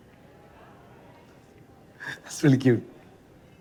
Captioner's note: chuckles